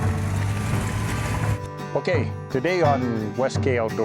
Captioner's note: engine purring